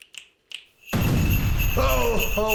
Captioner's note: DOC and GHOST snapping fingers; sleigh bells; sound of Christmas magic; explosion